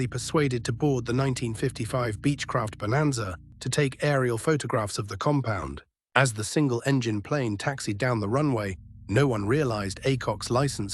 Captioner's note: SFX: airplane propeller engine starting